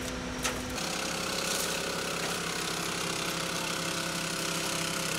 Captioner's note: engine revving